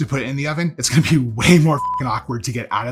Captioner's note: beep